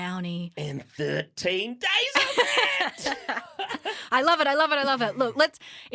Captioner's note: laughter